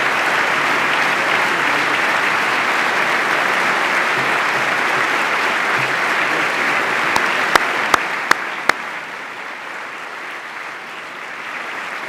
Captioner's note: applause